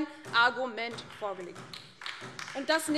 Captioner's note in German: Beifall DIE LINKE und vereinzelt SPD